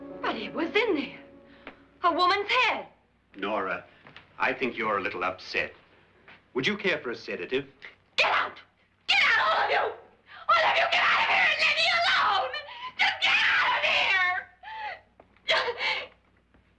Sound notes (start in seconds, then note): none